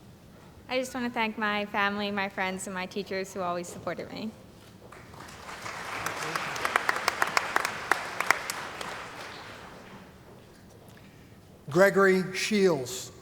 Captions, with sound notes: >> I just want to thank my family, my friends and my teachers who always supported me. [ Applause ] >> Gregory Shields.